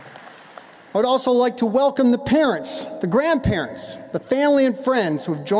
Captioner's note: applause